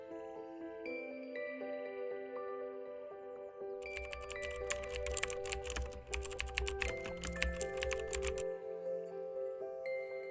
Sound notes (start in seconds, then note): 3.8 fingers typing